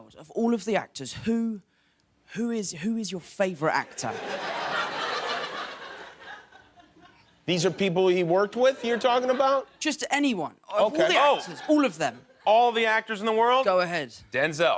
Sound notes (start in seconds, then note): 4.0 laughter